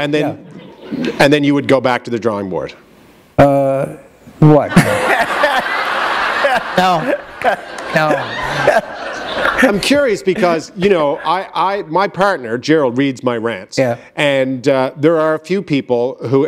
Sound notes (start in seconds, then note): 6.4 laughter